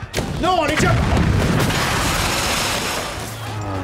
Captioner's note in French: Bruits d'explosion, de verre brisé